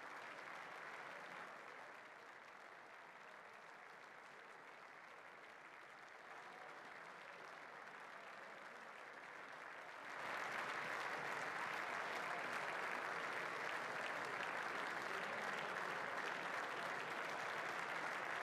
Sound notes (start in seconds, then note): 2.2 applause